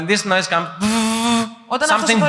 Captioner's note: humming